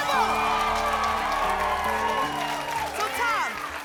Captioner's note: applause